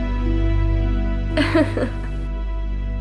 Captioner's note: Katanah nervously laughs